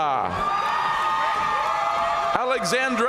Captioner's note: audience cheering and applauding